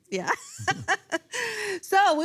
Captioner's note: laughs